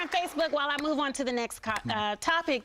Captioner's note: applause